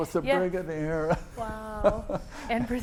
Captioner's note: laughs